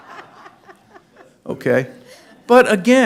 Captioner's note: laughter